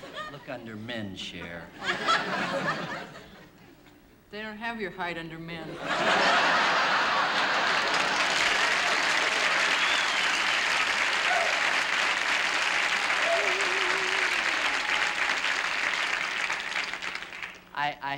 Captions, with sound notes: Look under "Men," Cher. [ Laughter ] They don't have your height under "Men." [ Laughter ] [ Applause ] I happen to know my weight is perfect for my height.